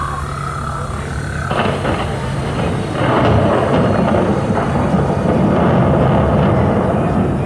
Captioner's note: monsoon sounds from speakers